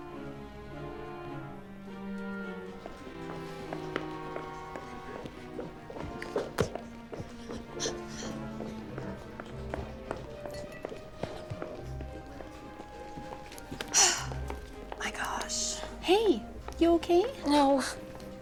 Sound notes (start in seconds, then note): 13.6 sighs